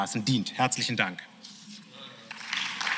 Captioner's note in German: Beifall